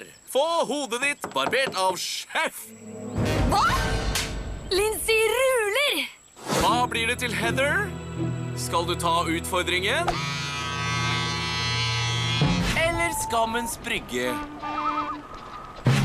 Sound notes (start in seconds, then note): 10.0 clippers buzzing; 14.2 horn toots